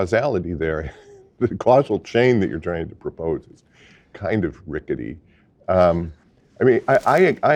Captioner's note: laugh